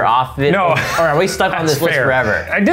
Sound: laughing

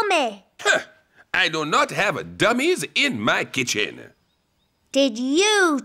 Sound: scoffs

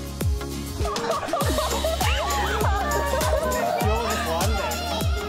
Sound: laughter fills the shoot

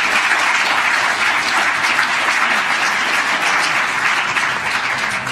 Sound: applause

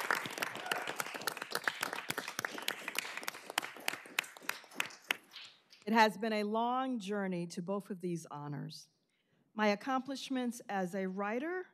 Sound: applause

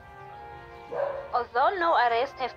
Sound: dog Bark

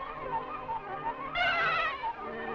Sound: shrieks

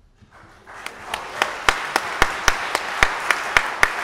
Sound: audience applauding

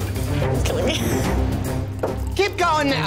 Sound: laughing

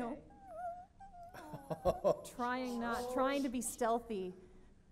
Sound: whimpers

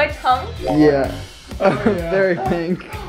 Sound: laughs

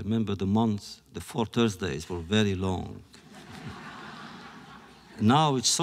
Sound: laughter

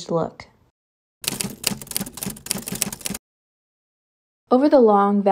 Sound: keyboard keys clacking

